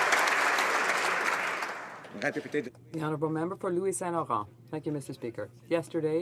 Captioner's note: some Applause